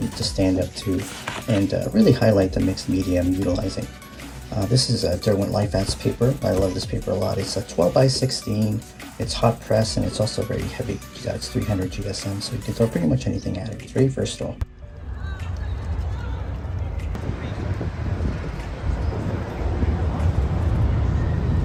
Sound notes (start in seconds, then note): 15.1 chatter